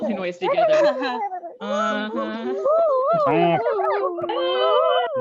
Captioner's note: overlapping silly noises